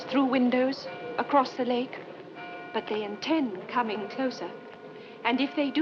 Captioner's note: none